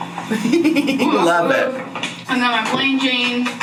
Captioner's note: laughs